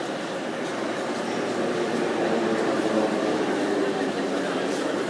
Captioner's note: arrival of train at the station